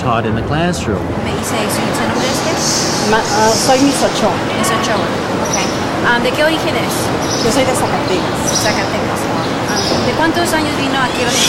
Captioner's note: students speaking Spanish